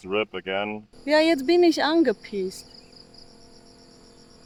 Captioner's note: in German